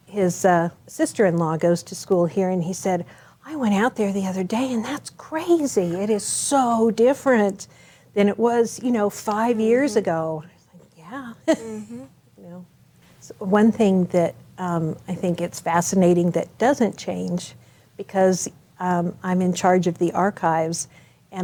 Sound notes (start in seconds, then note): 11.4 chuckles